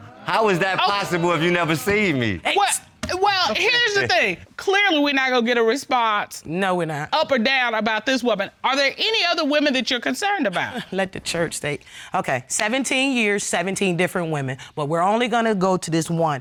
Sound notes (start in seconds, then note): 10.4 chuckles